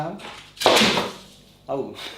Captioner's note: painting falls off wall